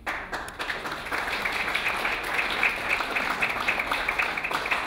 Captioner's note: clapping